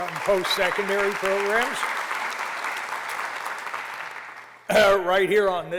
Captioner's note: applause